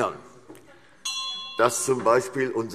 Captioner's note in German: Unruhe SPD - Glockenzeichen